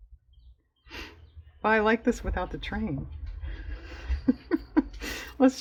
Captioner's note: laughs